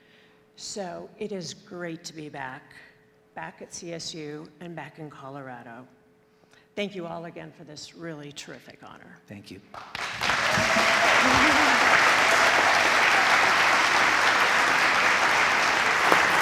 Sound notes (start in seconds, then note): 9.8 audience applauds; 10.0 audience cheers